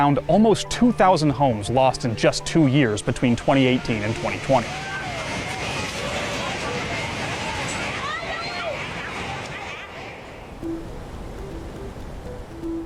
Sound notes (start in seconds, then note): 7.3 cries of homeowners continue; 10.5 soft uplifting music